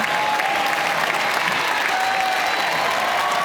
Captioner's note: applause